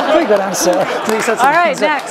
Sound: laugh

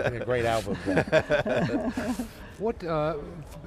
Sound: laughing

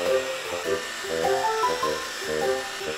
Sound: bzzzzzz

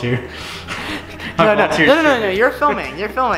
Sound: laughing

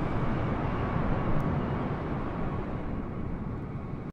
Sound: a320neo flyby sound; wind / waves sound

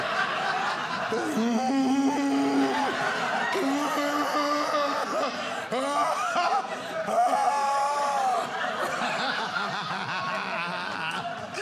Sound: groans

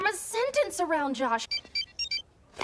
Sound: Kimmunicator rings

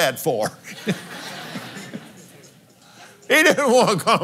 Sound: laughs

